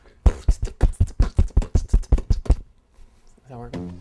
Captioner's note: beatboxes